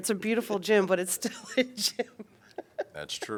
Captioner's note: laughter